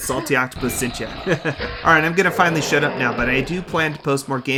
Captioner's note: chuckles